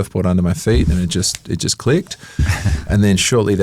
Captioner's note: finger snaps